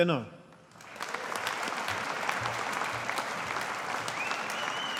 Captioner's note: audience applauding